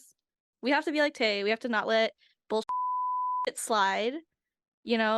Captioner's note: beep